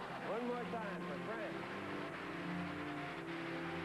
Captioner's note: applause